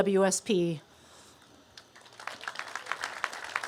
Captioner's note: applause